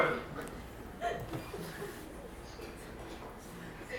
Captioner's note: crowd laughing